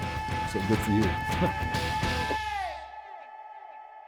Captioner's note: laughs